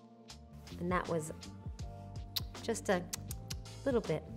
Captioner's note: smacks lips